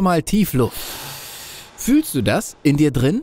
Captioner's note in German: hsssssch; holt Luft